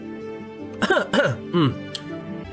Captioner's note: ahem